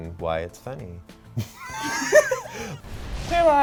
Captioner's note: both laughing